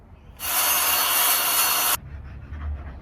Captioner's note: more circular saw